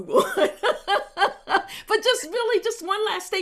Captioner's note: laughs happily